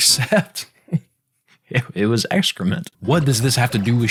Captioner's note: laughing